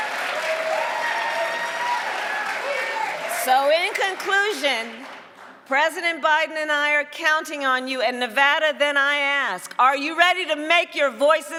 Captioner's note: cheering and applause